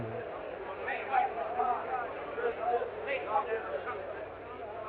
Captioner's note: people chattering